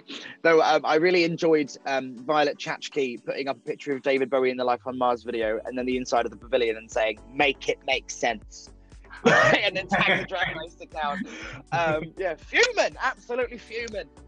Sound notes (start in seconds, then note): 9.2 laughing